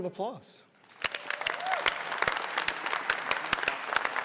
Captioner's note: applause